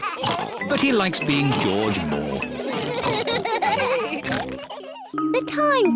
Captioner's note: all laugh